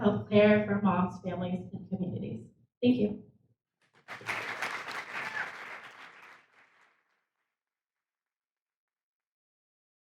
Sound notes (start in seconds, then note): 4.0 audience applauds